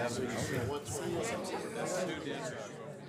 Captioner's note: chorus of ayes